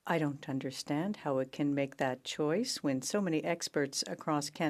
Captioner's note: speaking French